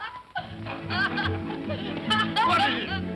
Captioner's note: boy laughs; whimsical music; boy laughs